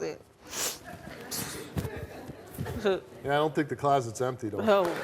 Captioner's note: audience laughing